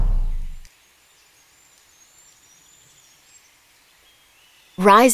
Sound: birds chirping

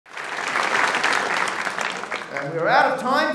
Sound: applause

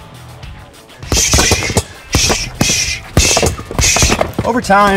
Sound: punching bag thuds

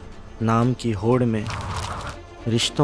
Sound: pages rustle and blow

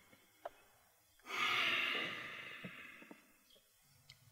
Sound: sighs

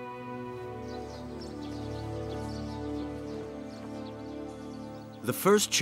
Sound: gentle music; birds chirping

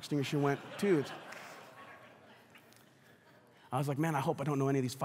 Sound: congregation laughs

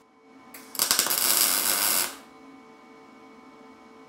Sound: tool crackling

